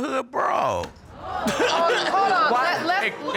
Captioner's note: audience exclaims; laughs